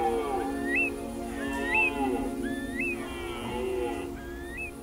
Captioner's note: deer calls